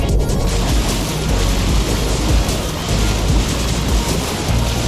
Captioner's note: water splashing